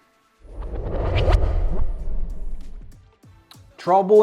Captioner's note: air swooshes